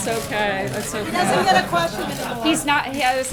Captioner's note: laughter